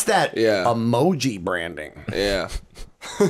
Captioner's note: laughter